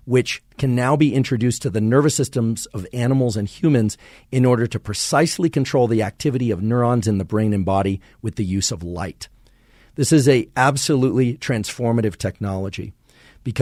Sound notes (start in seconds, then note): none